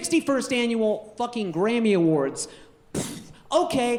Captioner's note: puffs